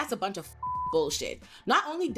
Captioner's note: beep